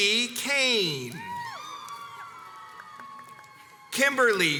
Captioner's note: crowds cheers and applauds